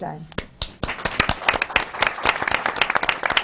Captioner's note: applause